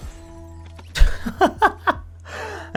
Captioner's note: laughter